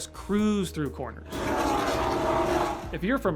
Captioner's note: roaring car sounds